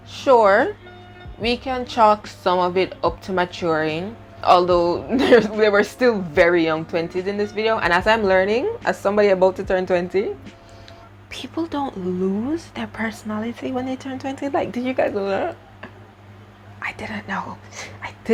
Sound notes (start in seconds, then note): 10.8 whispers; 16.7 whispers